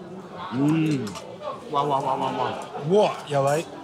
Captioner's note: exclaiming